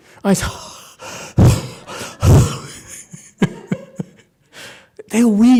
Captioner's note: huffs and puffs; laughs